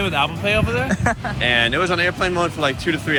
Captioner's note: camera person laughs